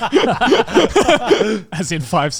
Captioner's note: all laughing